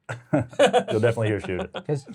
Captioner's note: laughing